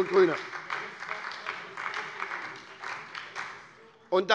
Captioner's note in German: Beifall bei der SPD